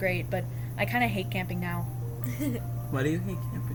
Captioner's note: laughs